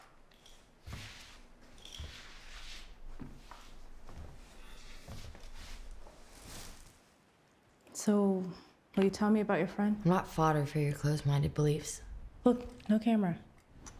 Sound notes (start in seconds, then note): 1.9 Claire's feet shuffle